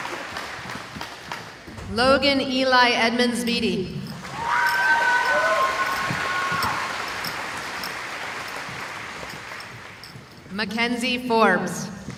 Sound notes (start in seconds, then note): 4.2 cheering